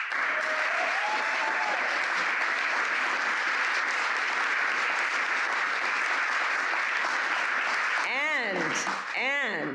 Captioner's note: applause